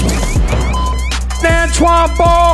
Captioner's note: ball bouncing; dunk sound